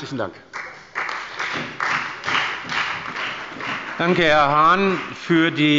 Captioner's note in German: Beifall bei der FDP und der CDU